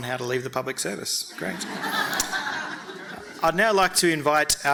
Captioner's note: audience laughing